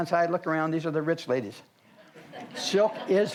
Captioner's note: audience laughs